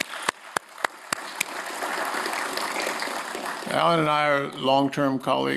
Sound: applause

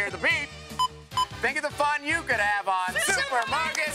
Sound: beeping

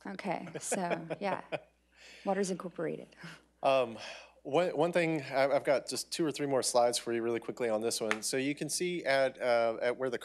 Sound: laughter

